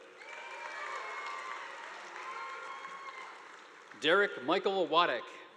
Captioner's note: audience applauding; students cheering